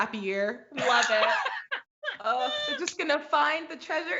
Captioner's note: laughs